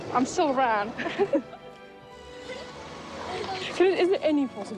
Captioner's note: both chuckling